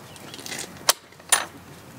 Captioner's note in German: Klappern